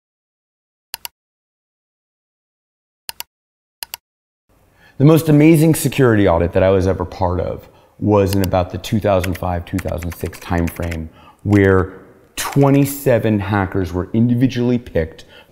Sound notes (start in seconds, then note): 0.6 clicking